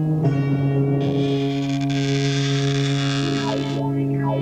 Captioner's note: crow cawing; coffin creaking